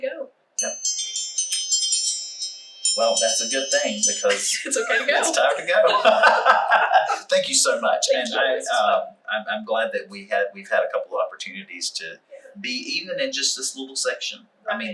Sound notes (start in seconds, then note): 4.3 laughter; 4.8 timer chimes